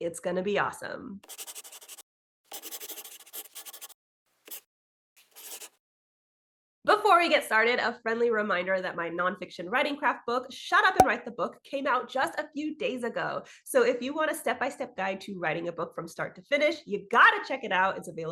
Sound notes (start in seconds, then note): 1.0 the sound of a pen scratching. LOGO